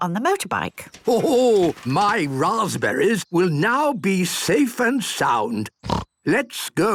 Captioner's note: snort